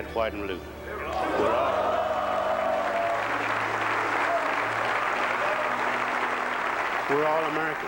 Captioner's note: crowd cheers